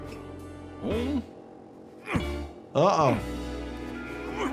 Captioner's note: Lumpy grunting